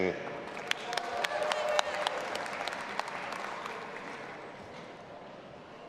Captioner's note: audience applauding and cheering